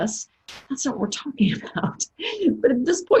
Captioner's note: laughs